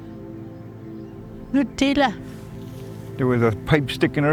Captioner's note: pensive music continues; speaking Dene